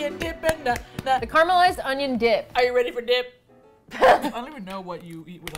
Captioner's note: singing to tune; applauds; singing to tune; laughs